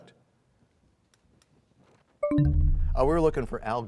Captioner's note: bell chimes, time expires